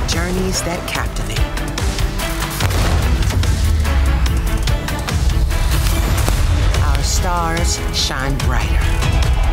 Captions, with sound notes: journeys that captivate. (gun firing) (dramatic music) (bomb exploding) Our stars shine brighter,